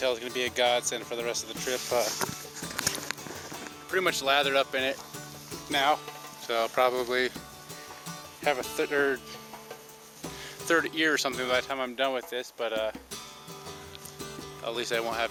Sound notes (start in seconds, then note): none